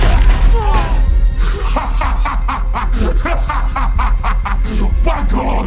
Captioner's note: both groaning; laughs evilly